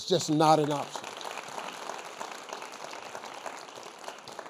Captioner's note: crowd applauding